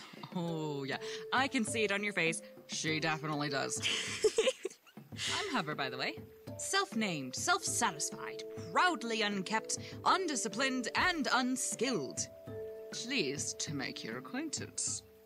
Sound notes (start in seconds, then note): 3.8 Nothing laughs; 11.6 in posh voice